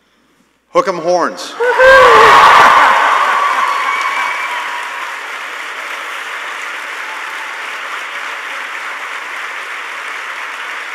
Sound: cheers and applause

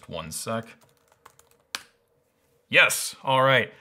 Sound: keyboard clattering

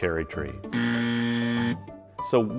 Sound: buzzing

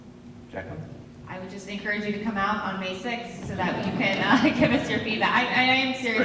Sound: laughter

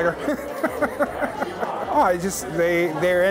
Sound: chuckling

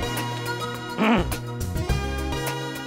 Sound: clears throat

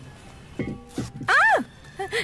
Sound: Bharati screams

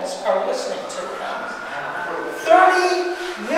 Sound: siren wailing

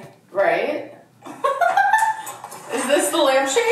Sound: laughs

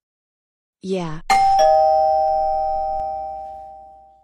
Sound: doorbell rings

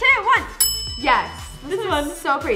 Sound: bell rings

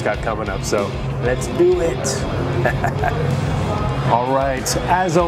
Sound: laughs

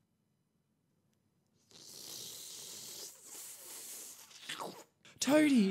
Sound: slurping noise

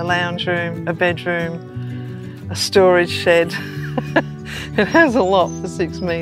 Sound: chuckles

